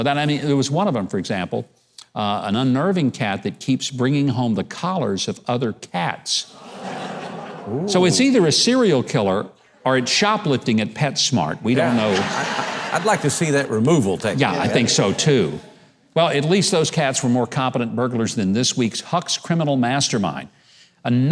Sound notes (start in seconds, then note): 11.7 audience laughing